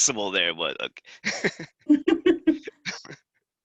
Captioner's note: laugh